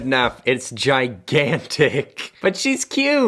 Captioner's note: chuckles